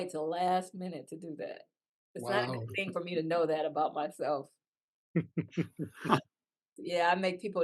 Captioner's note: laugh